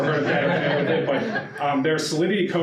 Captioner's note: audience laughter